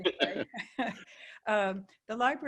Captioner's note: laughs